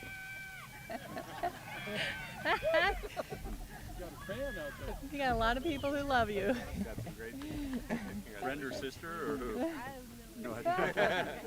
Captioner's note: applause